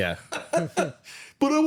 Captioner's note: laughs